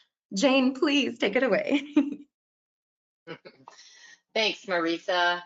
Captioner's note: chuckles